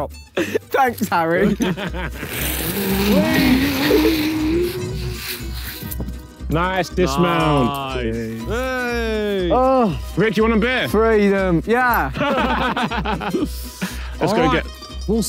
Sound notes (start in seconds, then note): 8.4 Harry cheering; 12.1 Harry and Tobi laughing